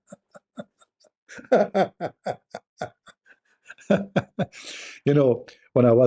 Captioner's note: Ketawa